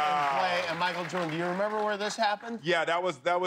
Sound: cheers and applause

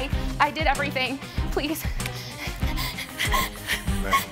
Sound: sobbing

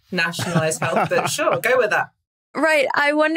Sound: laughs

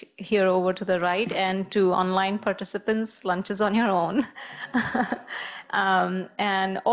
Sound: laughs

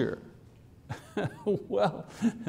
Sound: laughs

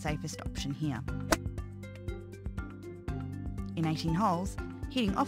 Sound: five iron hitting golf ball

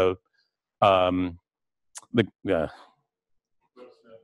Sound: pause

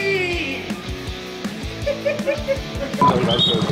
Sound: laughs

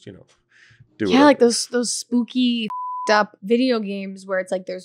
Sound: beep

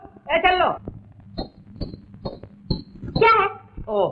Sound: anklets tinkling

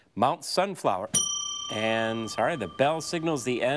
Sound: bell ringing

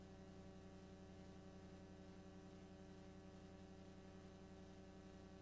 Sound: VHS static

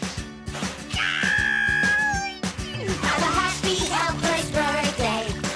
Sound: frustrated shriek

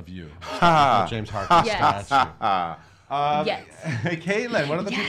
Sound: laughs loudly

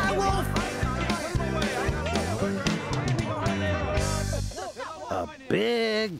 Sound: villagers talking excitedly

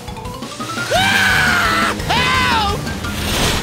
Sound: screaming

